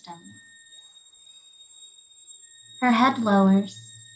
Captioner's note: whistling persists